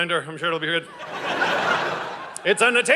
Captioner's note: audience laughing